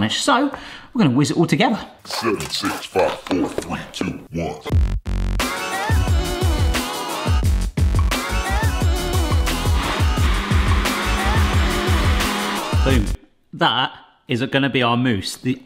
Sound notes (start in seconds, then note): 1.8 booming Electronic Voice; 4.6 funky electro music; 8.9 mixer whirring